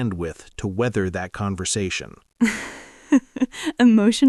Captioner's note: laughs